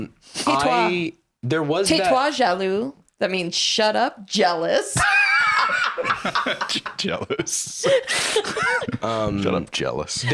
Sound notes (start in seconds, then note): 5.0 laugh